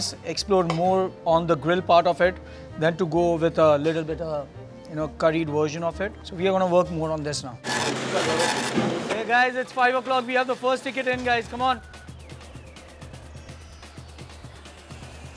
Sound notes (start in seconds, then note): 7.6 receipt printer whirring; 11.8 tense music